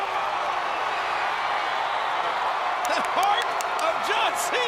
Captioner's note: crowd cheering